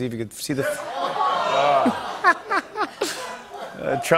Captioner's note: audience oohs; laughter